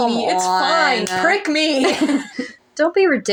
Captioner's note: laugh